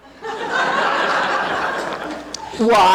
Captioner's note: audience laughing